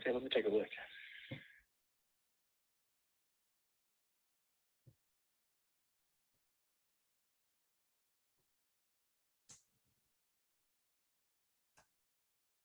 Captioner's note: silence